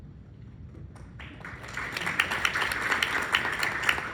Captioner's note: applause